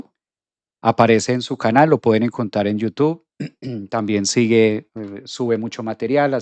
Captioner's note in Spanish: carraspeo